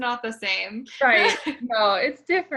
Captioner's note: laughs